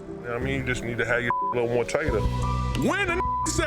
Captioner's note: beep; beep